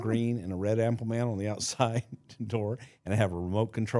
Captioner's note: chuckling